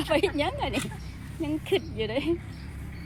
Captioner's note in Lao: ສຽງຫົວ